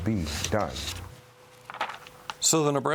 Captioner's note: pages rustle